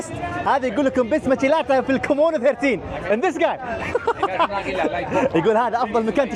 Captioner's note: laughter